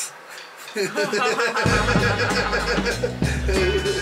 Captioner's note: laughter